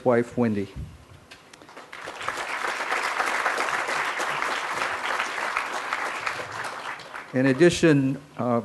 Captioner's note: crowd applause